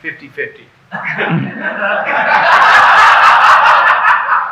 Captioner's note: audience laughing